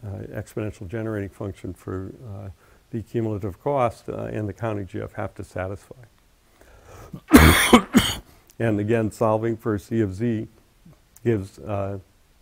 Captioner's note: cough